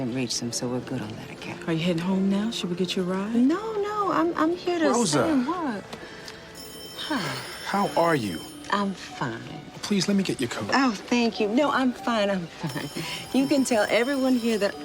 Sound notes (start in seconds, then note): 6.5 telephone ringing